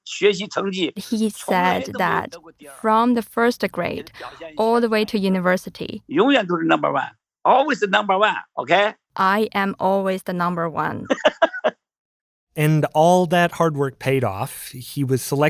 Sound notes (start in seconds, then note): 0.0 speaking Mandarin; 6.7 speaking Mandarin; 11.0 laughs